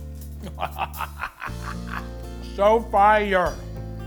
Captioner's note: Matty laughs